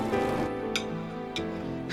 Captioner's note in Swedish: klatter